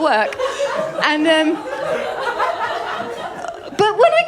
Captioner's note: laughter